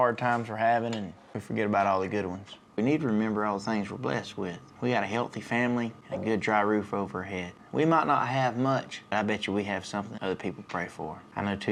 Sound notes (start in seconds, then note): none